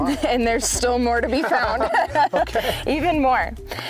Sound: laughing

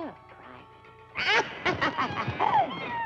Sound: cackling

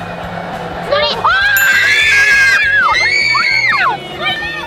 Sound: excited shouting

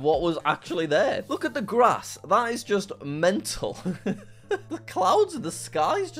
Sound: laughing

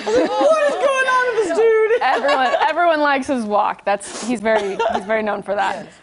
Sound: laughter

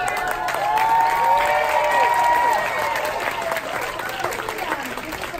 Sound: audience cheers

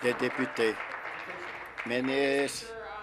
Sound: applause

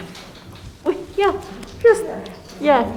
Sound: clapping

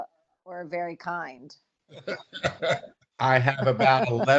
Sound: chuckling

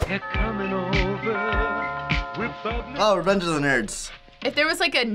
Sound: doorbell rings

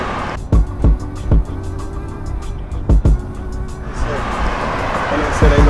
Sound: train arriving

